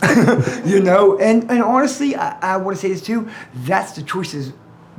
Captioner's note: laughing